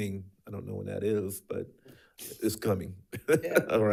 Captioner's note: chuckles